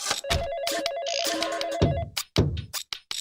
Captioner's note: phone ringing